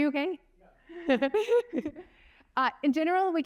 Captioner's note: laughter